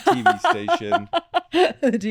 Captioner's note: laughing